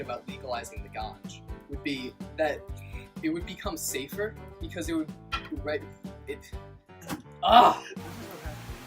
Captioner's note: stutters